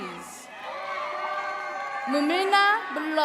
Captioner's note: attendees cheering